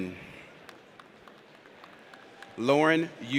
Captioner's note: audience applauds